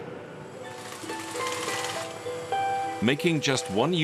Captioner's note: sewing machine whirring